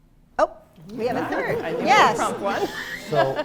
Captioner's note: laughter